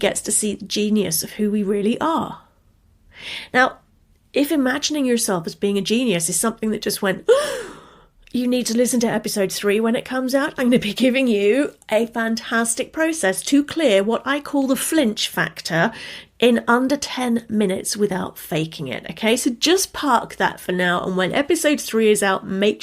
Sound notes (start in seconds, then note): 7.3 gasps